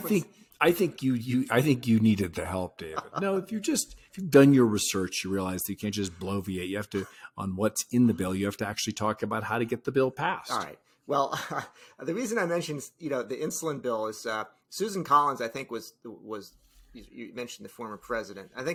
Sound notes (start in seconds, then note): 2.8 laughing; 11.2 chuckles